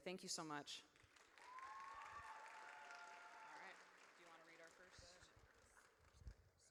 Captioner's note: audience cheers